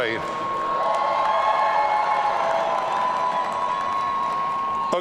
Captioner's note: audience cheering